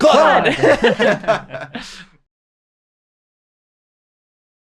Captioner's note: everybody laughs